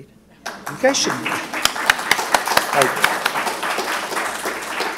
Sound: applause

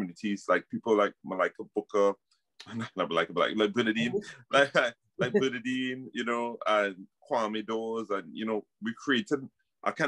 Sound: laughs

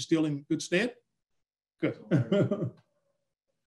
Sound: laughing

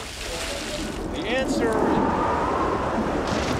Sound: <i> wind whistling</i>

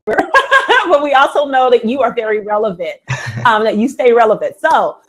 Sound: laughs

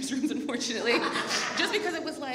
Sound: audience laughs

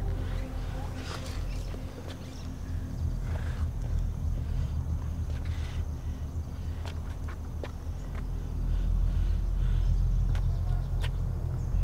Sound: breathes heavily

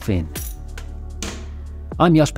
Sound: keys clink

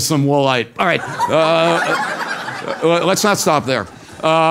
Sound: laugh

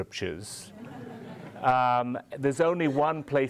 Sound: audience laughing

